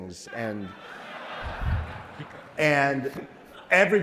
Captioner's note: audience laughing